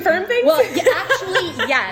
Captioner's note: laughs